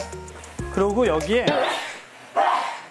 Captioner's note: sneezing